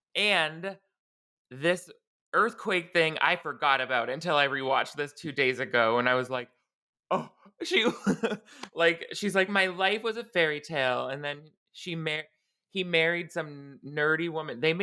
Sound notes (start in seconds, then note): 7.7 laughing